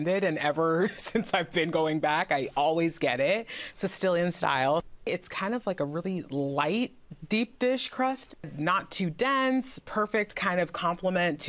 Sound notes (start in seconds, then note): none